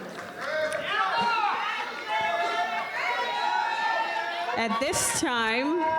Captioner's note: isolated audience cheers